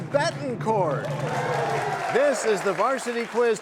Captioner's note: cheers and applause